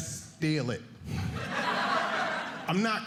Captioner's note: audience laughing